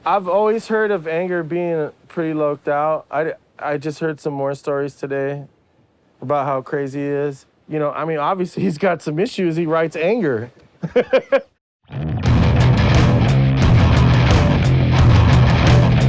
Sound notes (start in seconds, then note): 10.8 laughs